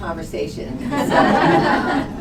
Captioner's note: laughter